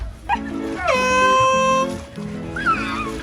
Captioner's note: horn sounds